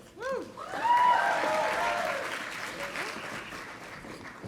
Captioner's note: audience applauding